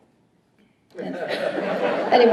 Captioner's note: laughter